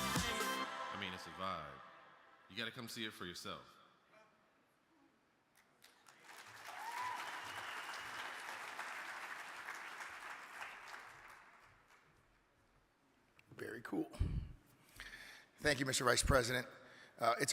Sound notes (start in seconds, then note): 5.6 audience claps